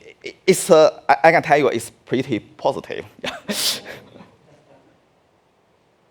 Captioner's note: laughing